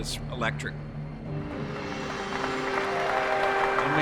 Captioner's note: applause